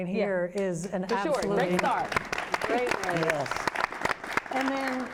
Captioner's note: applause